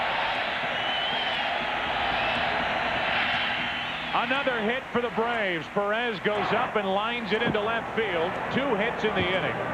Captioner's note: cheering